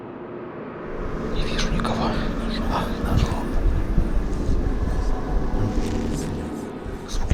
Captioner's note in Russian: раздались жуткие голоса